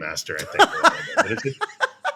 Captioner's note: laughter